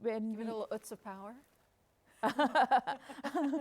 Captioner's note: both laughing